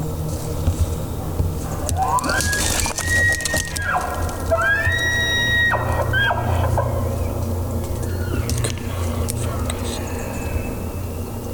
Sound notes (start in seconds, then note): 1.7 elk bugling; 8.1 caller cow calling